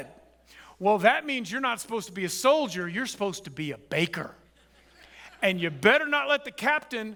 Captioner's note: audience chuckles